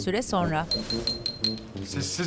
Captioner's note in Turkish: Bardağa vurma sesi